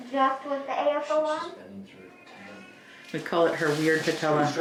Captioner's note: doctors speaking faintly